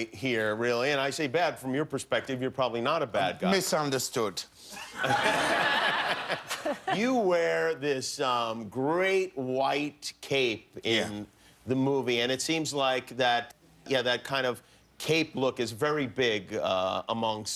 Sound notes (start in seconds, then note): 4.8 laughter